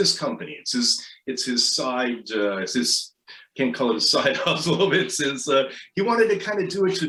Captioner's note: laughs